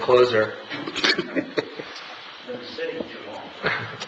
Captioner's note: laughing